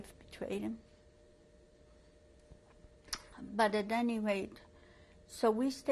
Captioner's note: pauses for 3 seconds